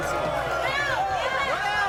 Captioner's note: audience yelling